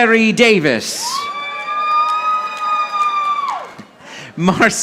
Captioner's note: audience applauding